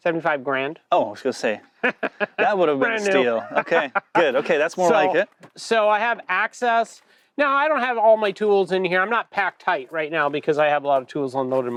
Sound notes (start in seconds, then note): 1.8 laughs